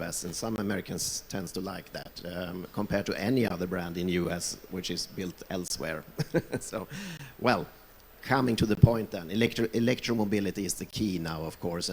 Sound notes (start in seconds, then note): 6.2 laughs